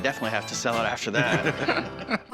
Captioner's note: laughter